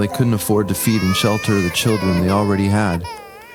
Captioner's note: children crying